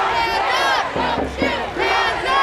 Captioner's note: crowd